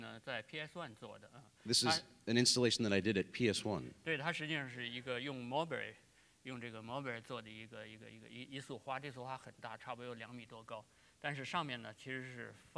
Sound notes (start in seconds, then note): 0.0 speaking in Chinese; 5.7 speaking in Chinese